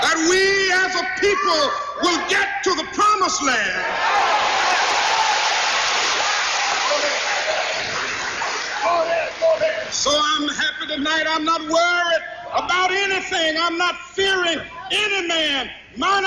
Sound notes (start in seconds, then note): 4.3 crowd cheering